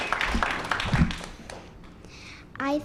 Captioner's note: applause